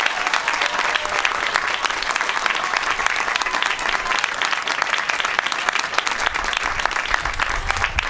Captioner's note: applause